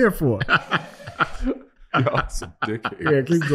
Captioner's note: group laughing